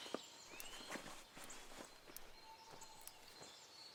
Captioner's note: birds chirping